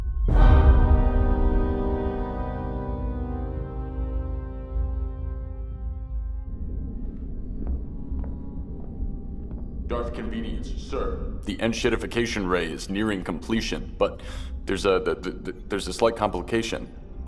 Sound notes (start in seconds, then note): 0.2 ominous music; 6.6 footsteps; 15.0 stutters